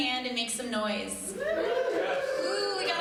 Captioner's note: crowd Cheering